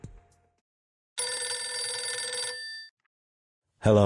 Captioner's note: phone ringing